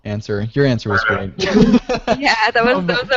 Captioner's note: laughter